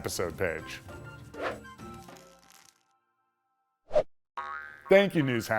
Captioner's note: animation whooshing